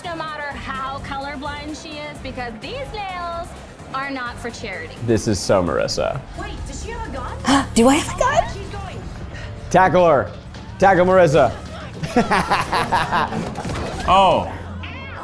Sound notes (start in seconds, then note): 12.0 laughs